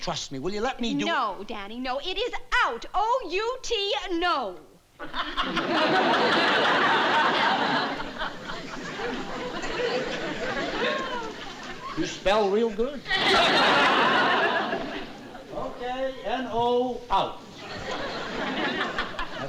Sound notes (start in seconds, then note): 5.0 laughter